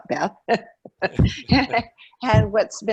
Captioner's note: laughing